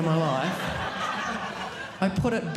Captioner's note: audience laughing